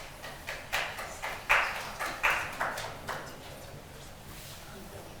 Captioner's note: attendee clapping